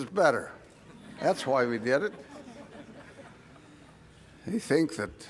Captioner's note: laugh